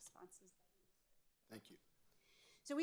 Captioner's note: speaks faintly